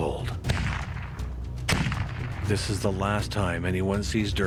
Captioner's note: gun firing